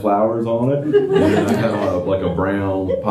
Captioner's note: laughter